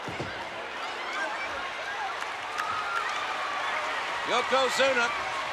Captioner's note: spectators cheering